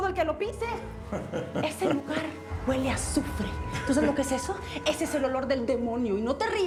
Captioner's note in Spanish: Él ríe